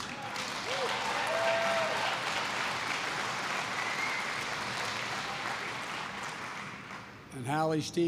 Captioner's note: applause